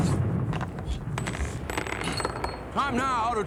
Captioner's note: bullets clonking